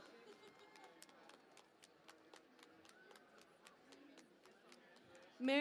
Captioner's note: cheering and Applause